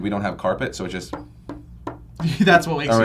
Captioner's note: tapping